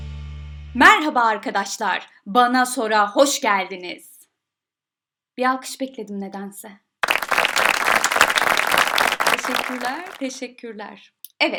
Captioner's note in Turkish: Alkış sesi